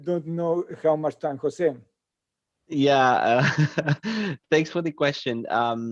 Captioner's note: laughing